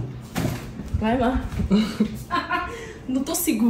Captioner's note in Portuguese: risos